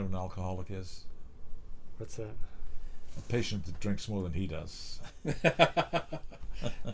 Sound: laughter

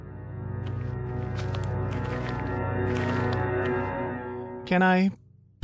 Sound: steps approaching

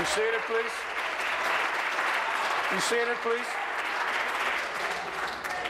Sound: applause

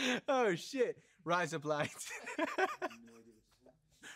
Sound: in australian accent

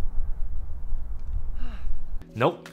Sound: sighs

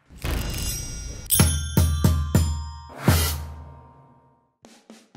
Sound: bells chiming

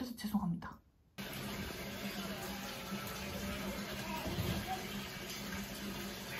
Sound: sound of filling up the tub

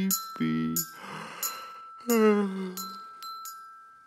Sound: man yawns

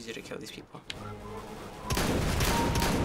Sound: whistling; kill chime; blasting gun

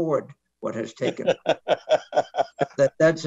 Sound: laughs

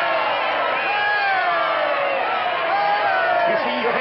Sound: crowd cheering

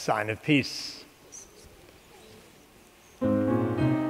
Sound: congregation murmurs; piano music

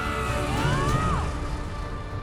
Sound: yells

